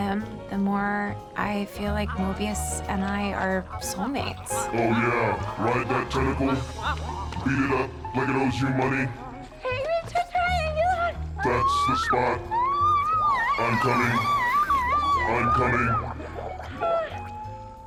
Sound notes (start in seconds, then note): 4.4 smooches, moans; 9.2 moans, screams; 16.0 screams, pants